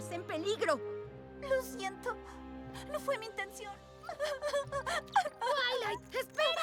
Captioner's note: sobbing